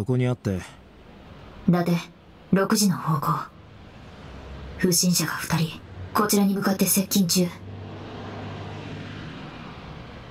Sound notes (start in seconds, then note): none